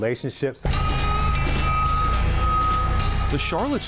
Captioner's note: forklift beeping